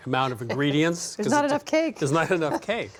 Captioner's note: laughs